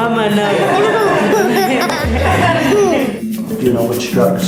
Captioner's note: laughing